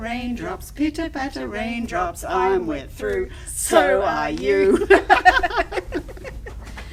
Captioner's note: haha!